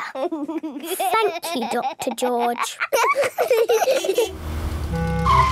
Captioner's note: laughs